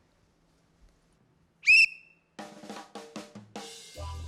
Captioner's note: blows whistle; upbeat reggae music